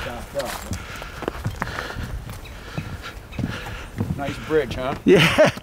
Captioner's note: panting